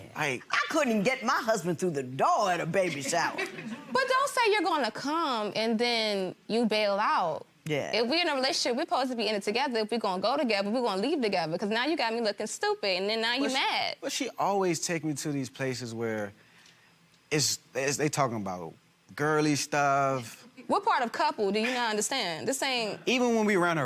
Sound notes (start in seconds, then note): 2.8 gallery laughs